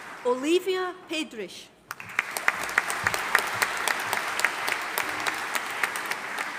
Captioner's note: audience applauding